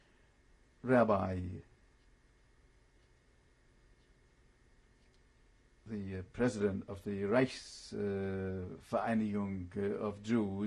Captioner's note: pauses for 3 seconds; german